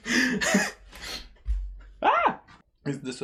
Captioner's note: chuckles; high-pitched soft scream